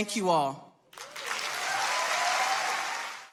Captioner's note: audience applauding